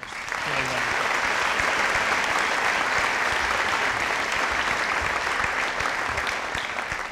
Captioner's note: audience applauding